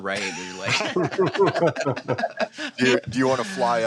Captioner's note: laughs